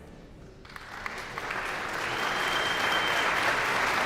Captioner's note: guests applauding